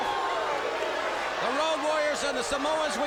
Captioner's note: crowd chatter